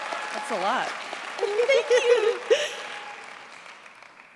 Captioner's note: cheers, applause; laughs